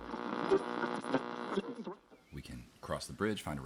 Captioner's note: radio static